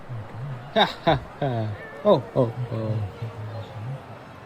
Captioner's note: laughing